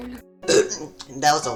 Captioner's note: burp